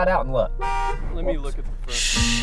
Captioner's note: loud car honk